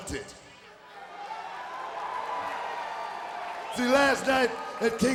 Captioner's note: audience cheering